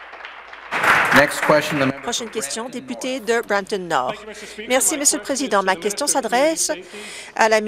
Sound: some Applause

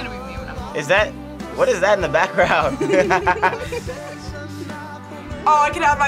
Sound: laughs

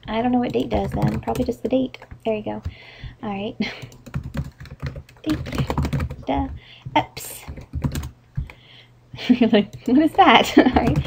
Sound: giggles

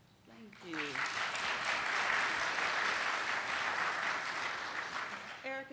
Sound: applauding

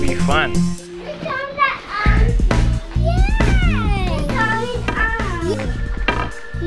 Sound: chattering

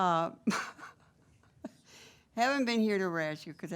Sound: members laughing

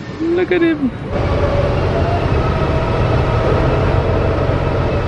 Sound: bus engine whirring

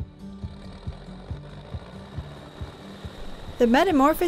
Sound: engine rumbling

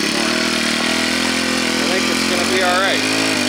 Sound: machine humming

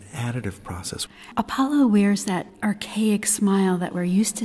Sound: voiceover

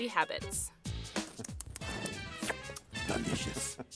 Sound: Cookie Monster smacks his lips and slurps

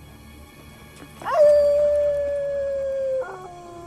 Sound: wolf howl

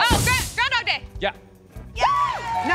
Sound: cheering

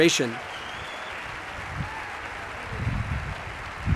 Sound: audience applauding

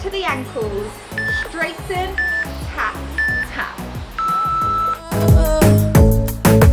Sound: timer beeps

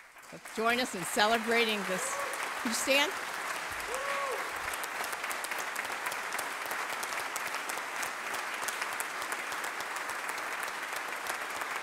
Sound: applause

